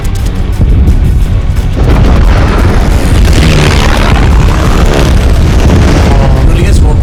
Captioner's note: gunfire; planes flying; explosions